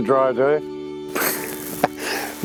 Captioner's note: laugh